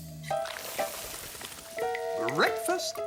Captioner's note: sizzles